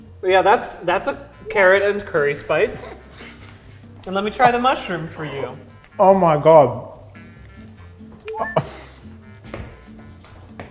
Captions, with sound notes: - Yeah, that's... that's a carrot and curry spice. - *quietly* fuck - And let me try the mushroom for you. - Oh my god!